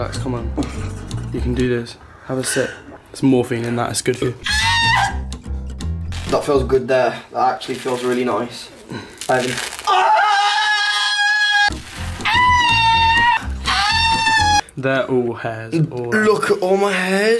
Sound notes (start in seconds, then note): 4.4 monkey screeching; 9.8 screaming